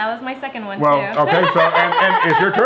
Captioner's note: laughing